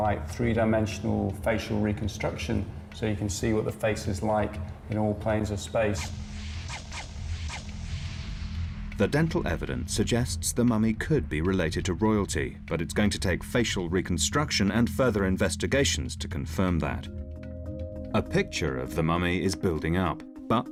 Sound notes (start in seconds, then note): 5.8 whooshing; 6.2 compelling music